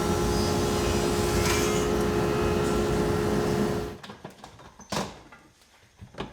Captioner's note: text swooshes; machinery continues to buzz